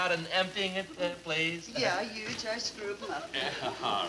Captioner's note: accented; fake foreign language